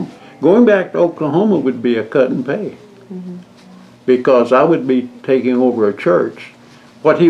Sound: none

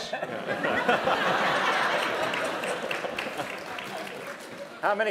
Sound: laughter & applause

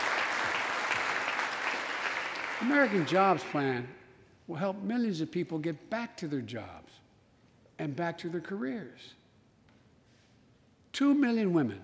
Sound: applause

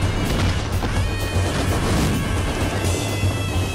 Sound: whirring

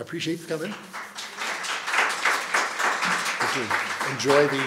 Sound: applause

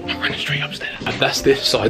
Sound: whispering

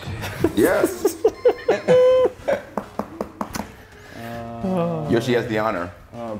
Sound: laugh

